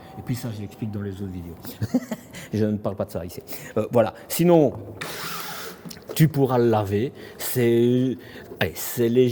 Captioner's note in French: rires